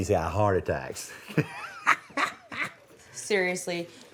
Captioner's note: laugher